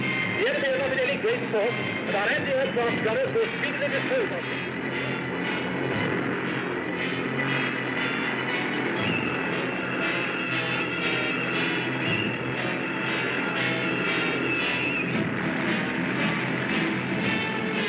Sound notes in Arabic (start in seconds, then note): 3.3 صوت المحركات; 3.3 موسيقى درامية